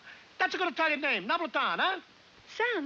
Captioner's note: speaking in Italian